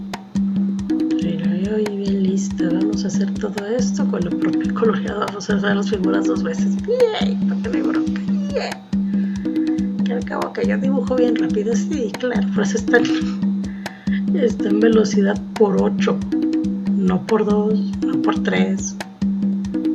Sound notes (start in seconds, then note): 11.5 sarcasm